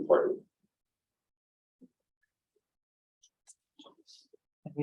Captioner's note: silence